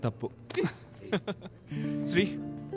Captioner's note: Laughs